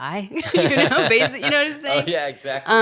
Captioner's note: both laughing